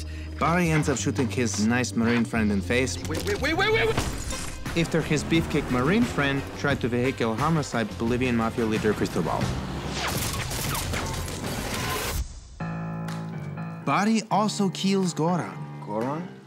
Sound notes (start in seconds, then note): 3.6 gunshot; 10.0 gunfire; 12.6 piano music plays